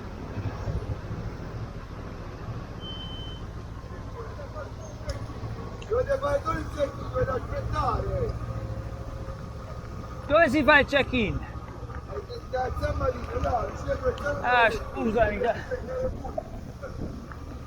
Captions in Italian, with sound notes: dovete fare solo il check-in, dovete aspettare dove si fa il check-in? lo sto dicendo da stamani, li si fa (in napoletano)